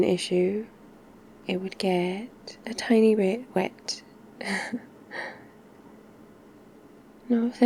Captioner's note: laughs